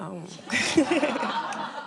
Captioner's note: laughter